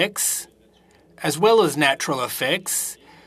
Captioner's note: speaking French